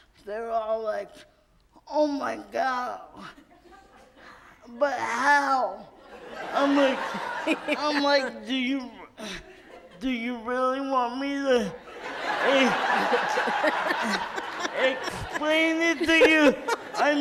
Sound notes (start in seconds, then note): 6.0 audience laughs; 11.7 audience laughs